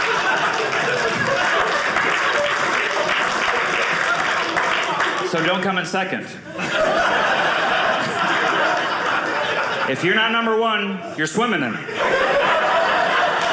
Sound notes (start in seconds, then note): 0.0 audience clapping; 6.4 audience laughing; 11.6 audience laughing